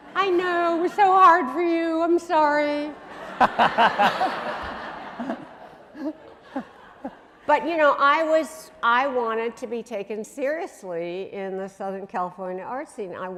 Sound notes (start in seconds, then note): 3.0 laughing